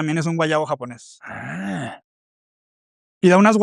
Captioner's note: resoplido